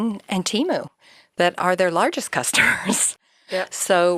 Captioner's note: chuckles